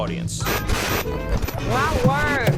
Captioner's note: television static